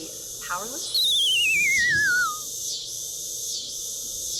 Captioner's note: loud cicada buzzing; digital whistling